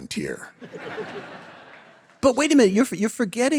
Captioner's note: audience laughing